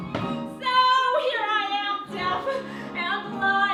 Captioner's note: none